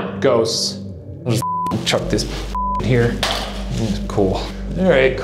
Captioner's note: beep